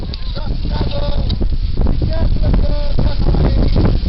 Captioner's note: wind picks up